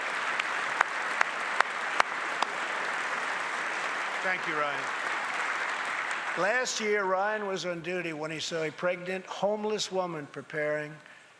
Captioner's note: applause